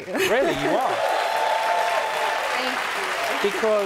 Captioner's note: cheering and applause